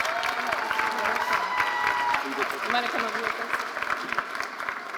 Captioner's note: audience cheering and applauding